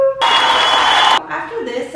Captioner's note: audience cheering